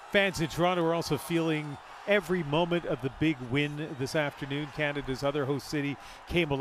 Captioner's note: cheers and Applause